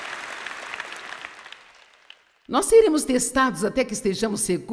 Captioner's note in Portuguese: audiência aplaude